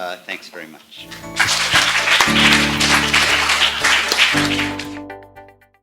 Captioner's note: applause